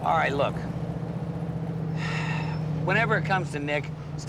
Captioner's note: sighs